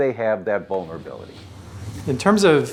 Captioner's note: whooshing